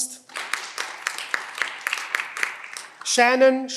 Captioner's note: cheering